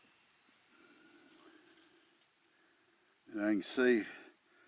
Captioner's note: breathing uneasily